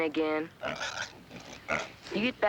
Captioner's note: squealing